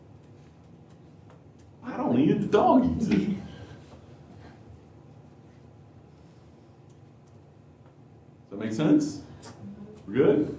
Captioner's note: laughter